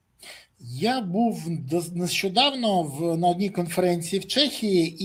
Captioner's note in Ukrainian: сопіння